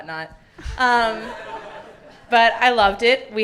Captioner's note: audience laughing